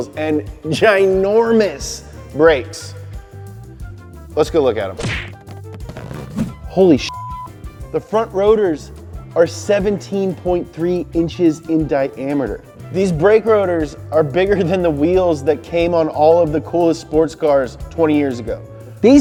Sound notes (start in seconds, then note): 7.0 beep